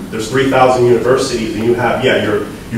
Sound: none

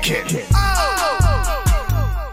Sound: ohhh

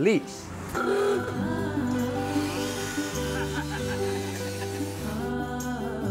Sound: mellow vocalizing music; horn honks

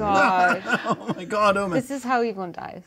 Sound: co-hosts laughing

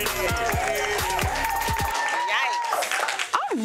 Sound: crowd cheering

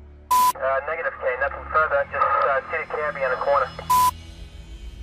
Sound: radio receiving message; radio-fizz

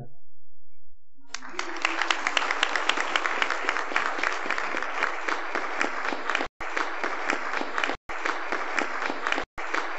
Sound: applause

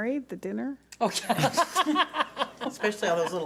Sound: laughs

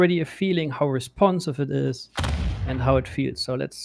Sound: booming sound

